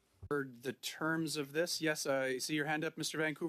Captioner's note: speaking French